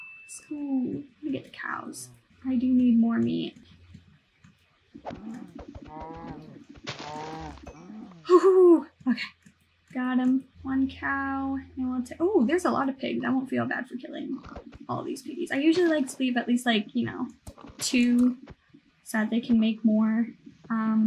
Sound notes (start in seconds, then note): 5.0 cow killing noises